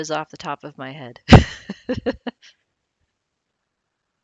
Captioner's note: laughs